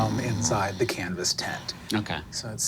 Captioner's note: snoring